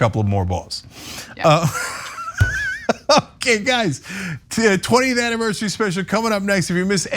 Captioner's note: laugh